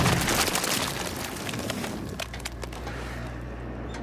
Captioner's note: squelching